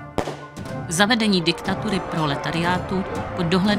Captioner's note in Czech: zvuky bojů